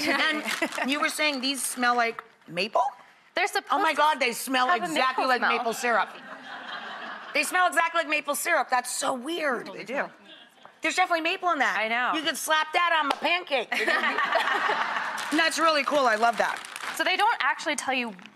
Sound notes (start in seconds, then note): 7.1 audience laughing; 14.2 laughing